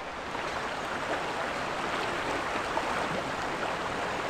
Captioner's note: sound of water